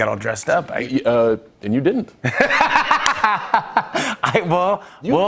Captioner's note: laughter